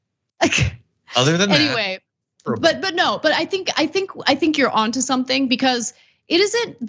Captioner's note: laugh